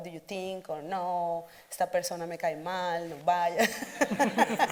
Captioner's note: speaks Spanish; audience laughing